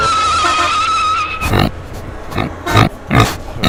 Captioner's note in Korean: 급브레이크